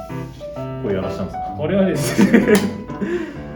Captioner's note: laughs